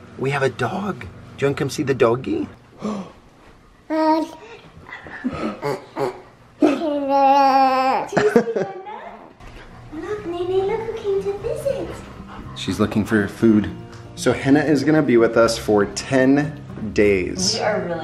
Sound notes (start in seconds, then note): 5.5 woof woofs